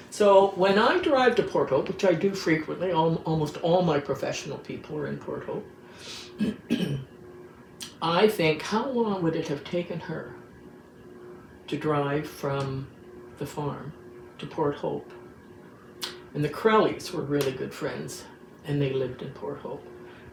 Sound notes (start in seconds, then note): 6.3 clears throat